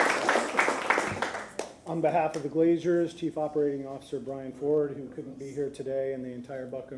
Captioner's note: applause